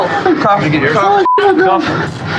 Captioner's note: argrguingng